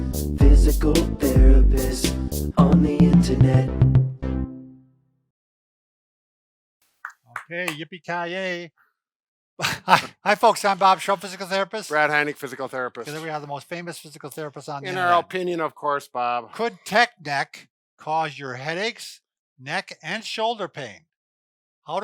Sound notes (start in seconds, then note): 7.0 clapping